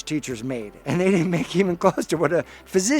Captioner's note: chuckling